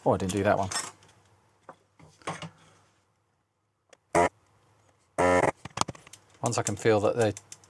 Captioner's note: buzzing